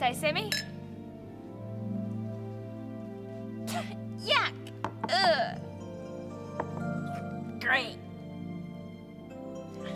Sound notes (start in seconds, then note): 1.5 gentle music; 5.0 coughs; 6.5 glass thuds